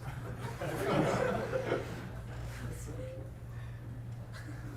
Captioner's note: class laughs